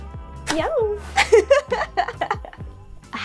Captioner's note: laugh